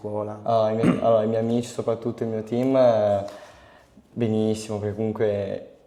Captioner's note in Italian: schiarire la voce